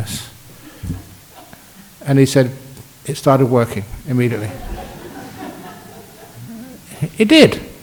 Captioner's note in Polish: Laughs